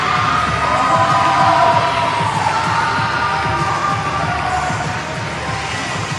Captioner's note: cheering